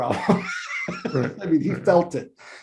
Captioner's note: laughs